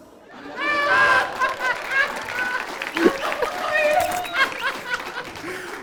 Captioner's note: Ali laughing out loud